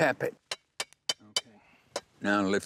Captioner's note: tapping sounds